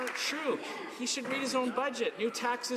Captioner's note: some Applause